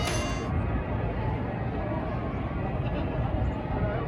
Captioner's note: Sounds of Melbourne in the evening